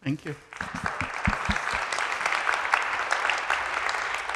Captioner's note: audience applauding